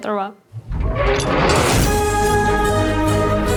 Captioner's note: metal creaking; dramatic orchestra music